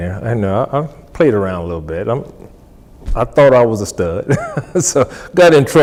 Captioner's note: laughs